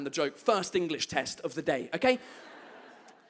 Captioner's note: audience laughs